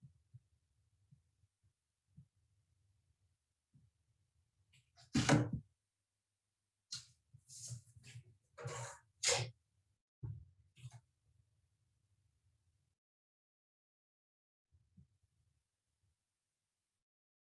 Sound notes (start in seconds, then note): 5.4 pan shuffling